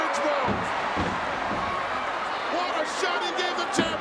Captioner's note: crowd cheers